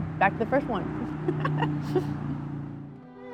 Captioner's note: laughs